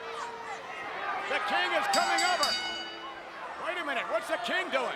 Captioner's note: bell dinging